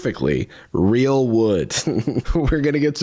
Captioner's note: laughs